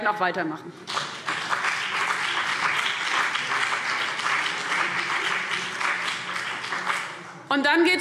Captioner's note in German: Beifall CDU und BÜNDNIS 90/DIE GRÜNEN